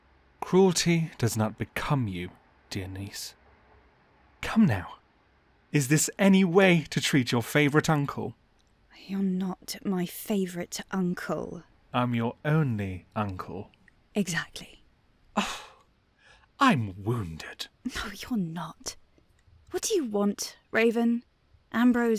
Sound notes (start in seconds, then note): 15.4 gasps